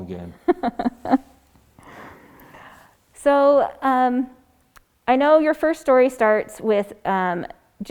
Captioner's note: laughs